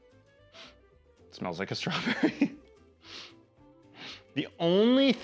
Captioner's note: laughs